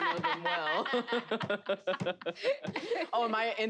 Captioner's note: players laughing